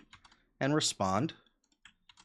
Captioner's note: keyboard clicking